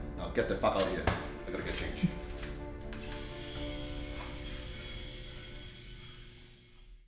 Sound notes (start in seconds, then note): 2.8 razor buzzing